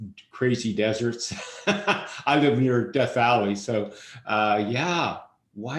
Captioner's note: laughs